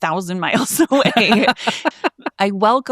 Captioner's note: laughing